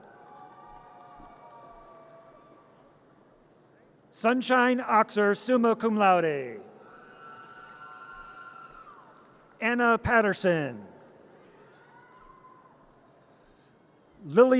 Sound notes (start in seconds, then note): 0.0 audience cheers; 6.9 audience cheers; 11.7 audience cheers